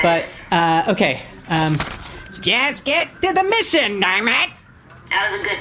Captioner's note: nasally